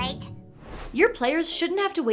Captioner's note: whoosh